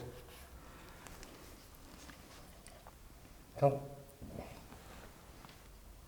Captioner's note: silence in the background